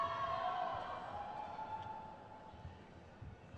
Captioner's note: crowd cheers